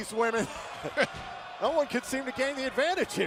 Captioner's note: laughter